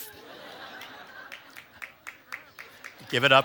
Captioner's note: audience claps